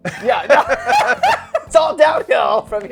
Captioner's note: both laughing